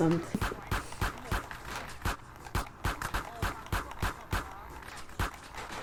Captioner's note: gunfire